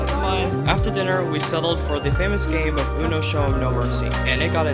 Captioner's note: voiceover